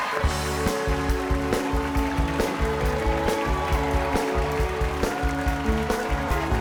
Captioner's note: cheers and applause